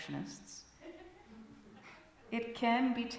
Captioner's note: giggles from congregation